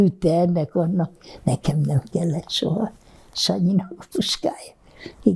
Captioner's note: laughing